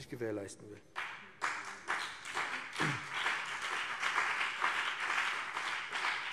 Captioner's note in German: Beifall BÜNDNIS 90/DIE GRÜNEN und CDU